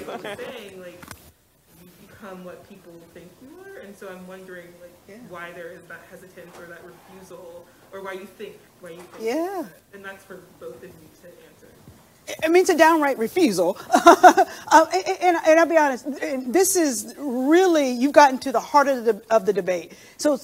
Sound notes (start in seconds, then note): 13.8 laughs